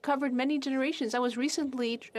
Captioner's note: speaking French